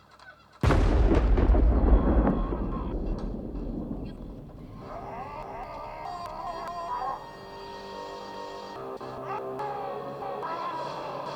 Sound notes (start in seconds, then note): 0.6 lightning crashing; 6.4 gentle suspenseful music